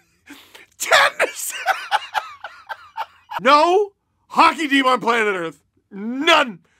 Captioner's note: laughter